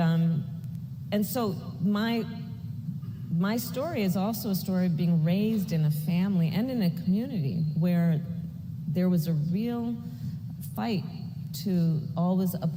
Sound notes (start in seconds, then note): none